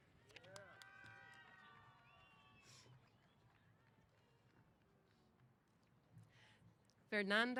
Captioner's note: applause & Cheers